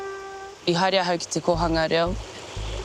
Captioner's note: speaks te reo māori